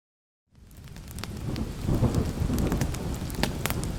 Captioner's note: fire crackling